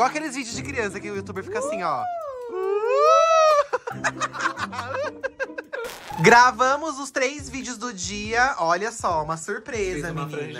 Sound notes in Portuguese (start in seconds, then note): 3.4 risos